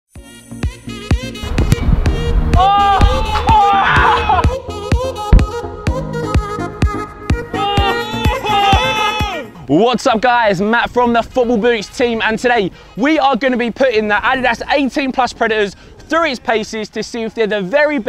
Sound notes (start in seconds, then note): 0.2 upbeat trumpet music; 3.0 shouting